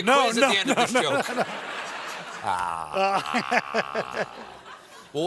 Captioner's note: laughter